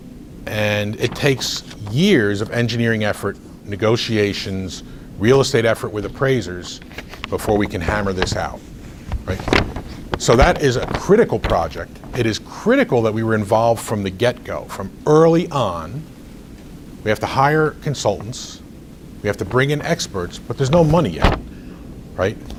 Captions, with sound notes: And it takes years of engineering effort, negotiations, real estate effort with appraisers before we can hammer this out, right? So that is a critical project. (rustles papers) It is critical that we were involved from the get-go, from early on. We have to hire consultants. We have to bring in experts, but there's no money, right?